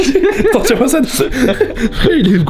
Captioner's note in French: rires